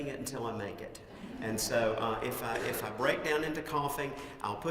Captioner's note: laugh